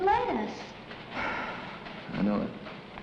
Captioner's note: sighs